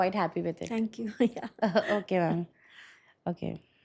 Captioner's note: chuckles